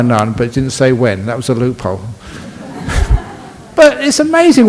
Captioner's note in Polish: Laughs